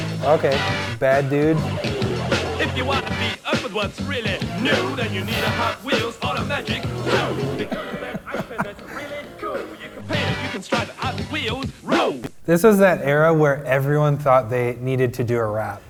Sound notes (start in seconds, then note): 0.0 funky music; 7.5 chuckling